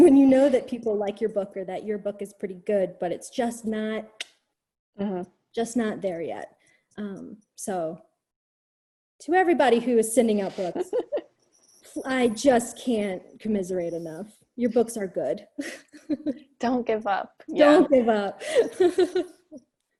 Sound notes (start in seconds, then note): 15.6 chuckles; 17.6 laughs